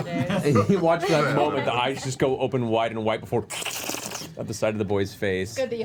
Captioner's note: slurps